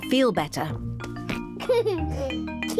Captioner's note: giggles